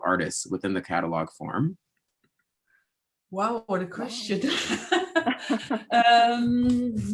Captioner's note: chuckles